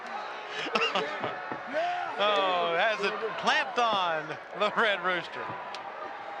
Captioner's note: laughs